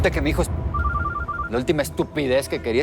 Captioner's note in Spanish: Suena el celular